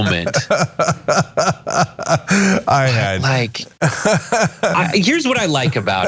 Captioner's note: laugh